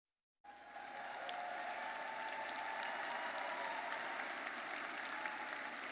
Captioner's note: audience cheers and applauds